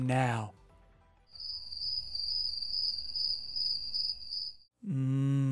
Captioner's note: crickets chirping